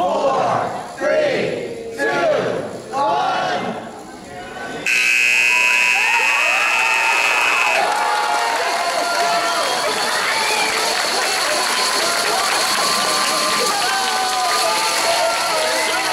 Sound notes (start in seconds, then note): 4.8 buzzer; 7.9 cheering